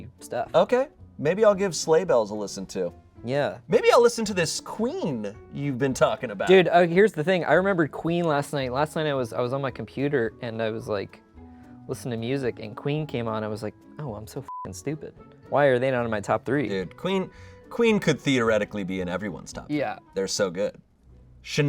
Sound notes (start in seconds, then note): 14.4 beep